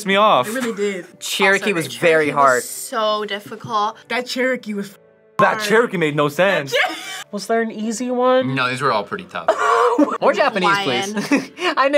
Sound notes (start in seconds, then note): 6.7 both laugh; 9.4 laughs; 10.8 both laugh